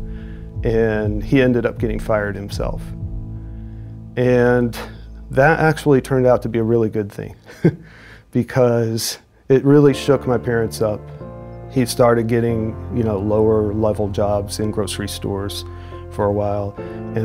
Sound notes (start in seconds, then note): 7.4 chuckles